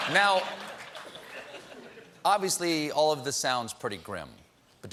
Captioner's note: laughter